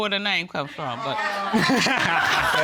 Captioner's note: laughter